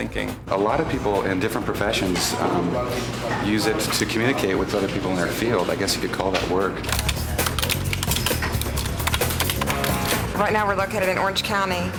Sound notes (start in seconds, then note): 7.2 clicking